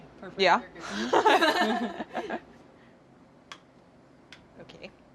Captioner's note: laughs